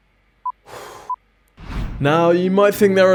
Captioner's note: sighs